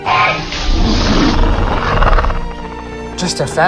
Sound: Hermes grumbling

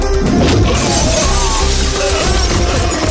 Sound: glass shatters

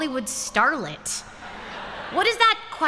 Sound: laughter

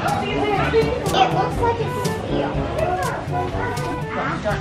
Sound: kids chattering

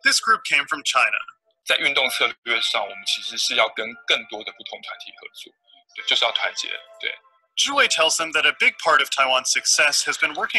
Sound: Mandarin

